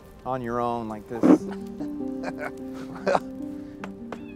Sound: chuckles

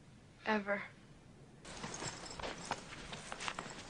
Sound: boots jingling

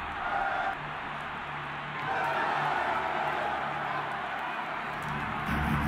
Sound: cheering

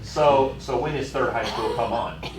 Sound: laughter

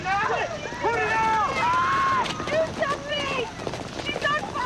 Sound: Carly screaming

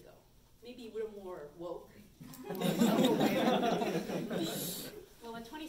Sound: audience laughs

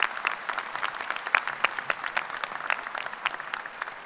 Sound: applause

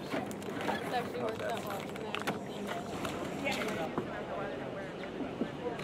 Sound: water splashing

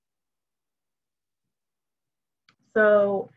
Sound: silence

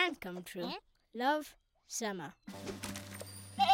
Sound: bleating

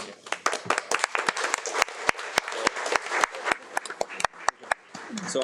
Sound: audience applauds

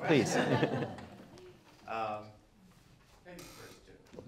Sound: laughing

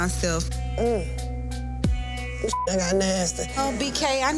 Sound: beep

